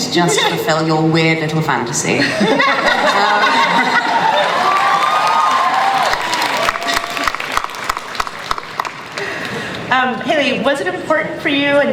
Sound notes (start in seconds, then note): 2.2 laughter; 3.5 audience cheering and applause